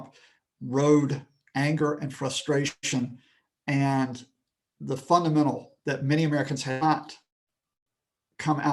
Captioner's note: connection lost